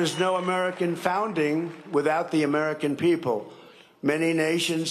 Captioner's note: cheering and applause